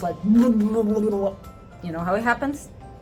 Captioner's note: water bubbles popping